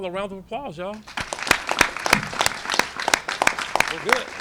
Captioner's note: applause